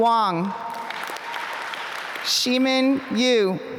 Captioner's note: applause